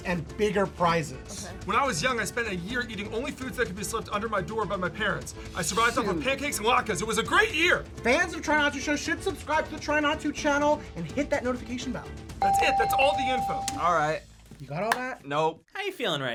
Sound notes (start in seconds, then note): 12.4 bell rings